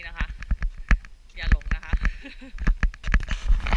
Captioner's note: laugh